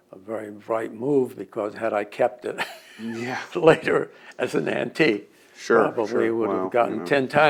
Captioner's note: laughs